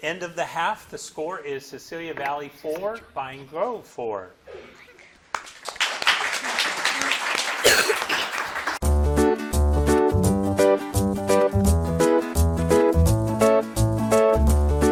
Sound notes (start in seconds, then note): 5.3 audience clapping; 9.1 upbeat music